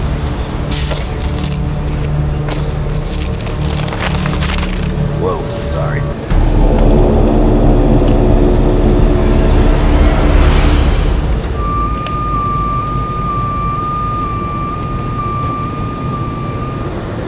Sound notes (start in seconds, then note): 11.8 truck wailing